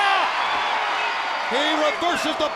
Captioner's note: crowd cheering